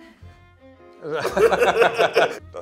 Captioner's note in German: Lachen